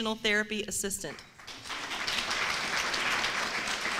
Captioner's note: applause